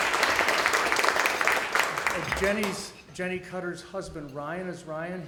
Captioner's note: audience applause